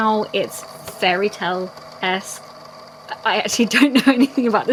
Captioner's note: laughing